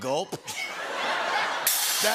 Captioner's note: laughter